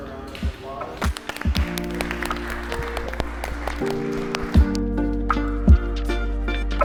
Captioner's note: all clapping; gentle music